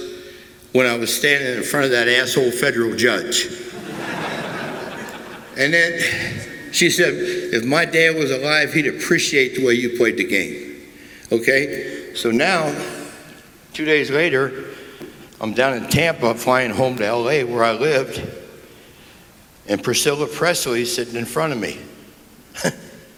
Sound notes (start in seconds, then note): 3.6 laughter